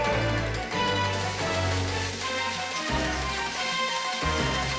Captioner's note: fire hissing